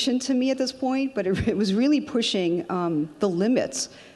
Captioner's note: laughs